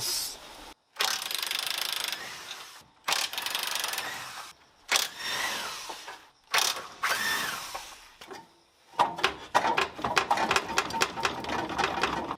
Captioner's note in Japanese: 作業音